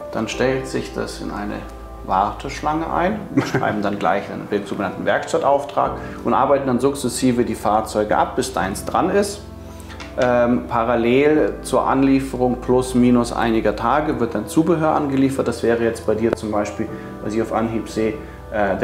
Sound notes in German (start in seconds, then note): 3.3 lacht